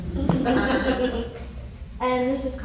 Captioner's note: laughing